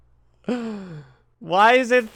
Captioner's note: tired laugh; exasperated inhale